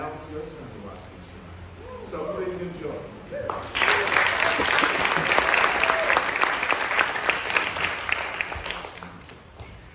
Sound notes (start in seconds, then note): 3.5 applause